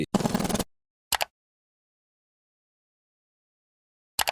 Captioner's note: mechanical clicking